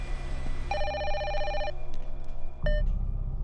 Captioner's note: phone ringing